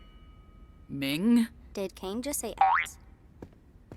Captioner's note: boink